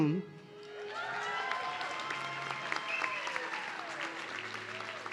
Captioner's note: audience cheering